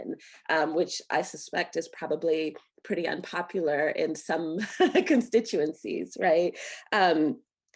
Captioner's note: laughter